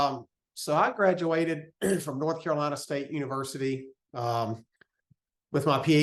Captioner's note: cough